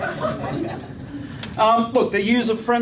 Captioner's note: laughter